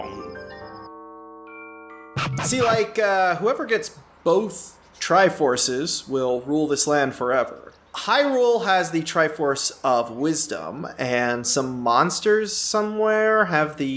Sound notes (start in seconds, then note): 0.0 eerie bell music; 2.1 record scratch